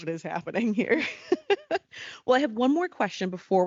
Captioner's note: laughing